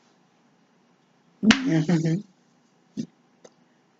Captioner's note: laughing